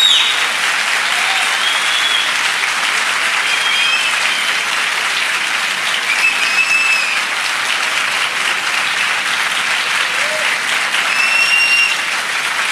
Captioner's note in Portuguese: Aplausos